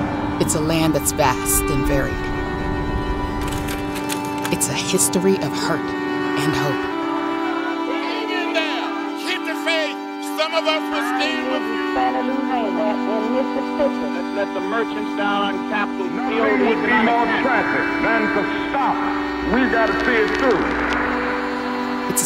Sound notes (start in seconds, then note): 8.4 voices